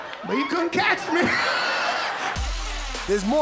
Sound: laughter

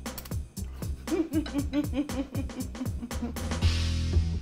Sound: laughs

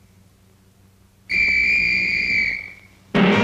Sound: whistle blow

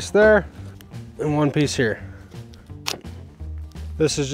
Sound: tape tearing

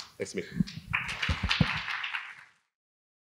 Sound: applause

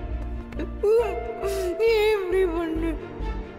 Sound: crying

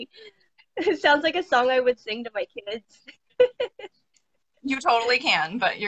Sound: laughing

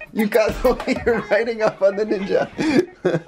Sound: laughing

